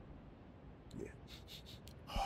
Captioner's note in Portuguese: Fungada